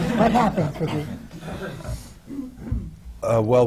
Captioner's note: laughter